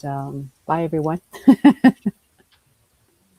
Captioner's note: laughs